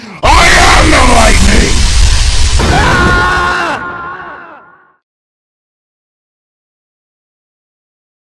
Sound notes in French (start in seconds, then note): 2.6 Cri de douleur de Chat Noir